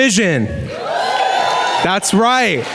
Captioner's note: louder clapping and cheering